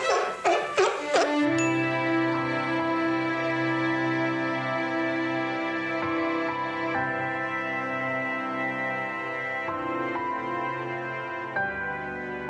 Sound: the Seal is Barking

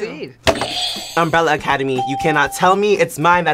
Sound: bell rings

